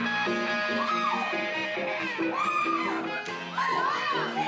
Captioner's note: cheering